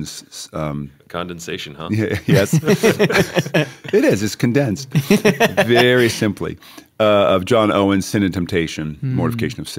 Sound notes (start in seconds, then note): 1.8 laughter